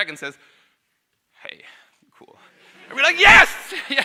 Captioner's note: audience laughs